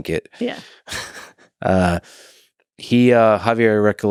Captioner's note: Lex chuckles